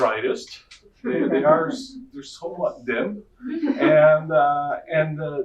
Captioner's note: audience laughing